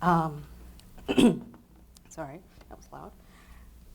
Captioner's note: clears throat